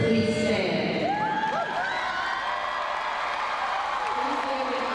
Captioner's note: crowd cheering